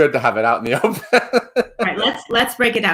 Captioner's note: laughs